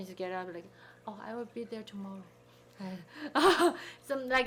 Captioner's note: laughing